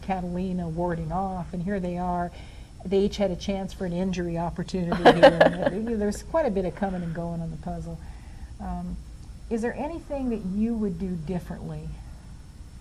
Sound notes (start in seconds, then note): 5.0 laughs